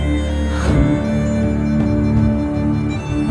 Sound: hum

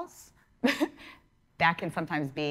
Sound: laughing

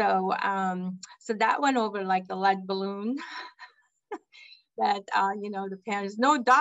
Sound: laugh

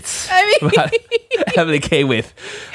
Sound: laughing

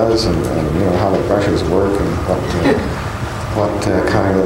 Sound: laugh

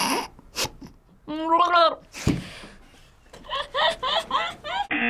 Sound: laughs; gurgles

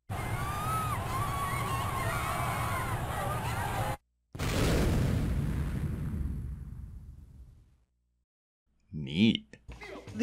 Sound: people screaming because of the...ya know giant rock about to hit earth

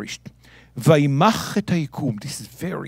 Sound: speaking in Hebrew

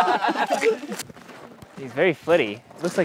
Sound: all laugh

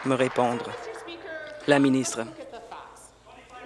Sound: applause

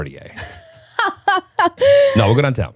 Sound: laughing

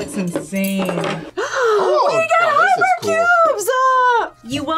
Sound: gasps; laughs

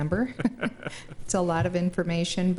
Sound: laughing

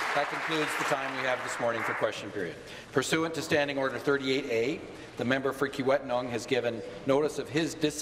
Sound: some Applause

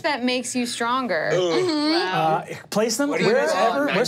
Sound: groans

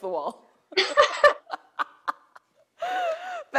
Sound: laughter

